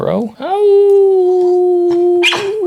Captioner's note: me howling at the moon; Jaco barks